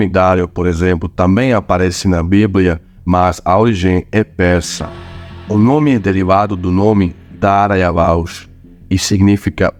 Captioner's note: old Persian